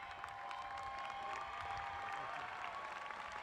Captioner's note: applause